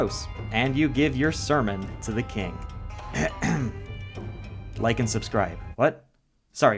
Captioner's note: clears throat